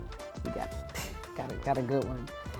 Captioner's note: makes hitting noise